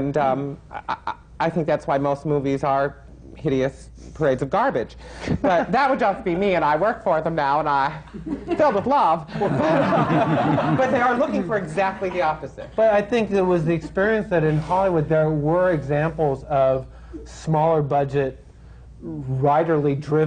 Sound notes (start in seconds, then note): 9.3 laughter